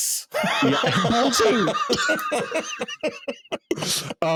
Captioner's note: laughing